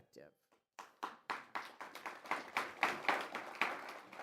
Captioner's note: applause